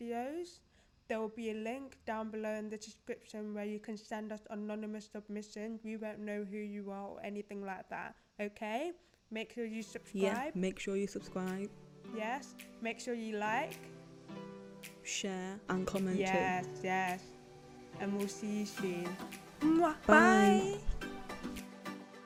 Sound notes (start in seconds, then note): 19.2 mwah